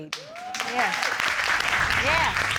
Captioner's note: applause